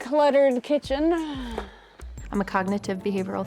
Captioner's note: sighs